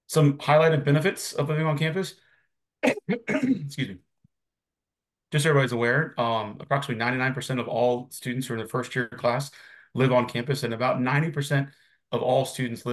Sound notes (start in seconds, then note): 2.8 coughs